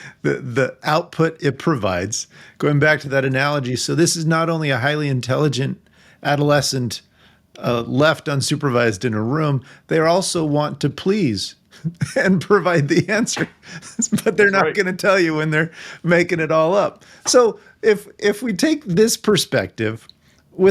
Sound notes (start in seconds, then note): 12.6 laughing